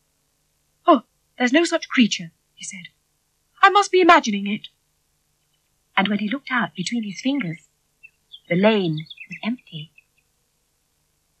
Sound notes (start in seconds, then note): none